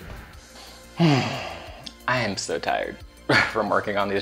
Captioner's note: sighs